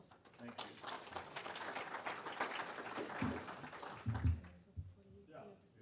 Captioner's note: audience applauding